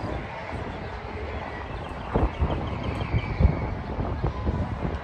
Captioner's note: birds chirping